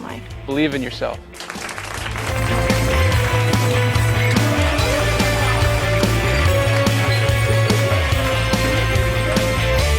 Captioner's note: clapping